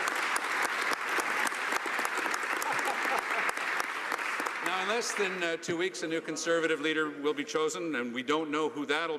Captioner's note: laughter